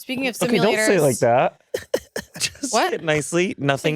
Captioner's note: laughs